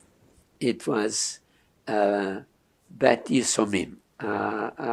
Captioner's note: non-english